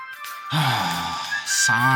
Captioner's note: sigh